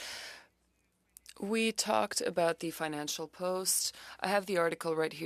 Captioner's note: speaking French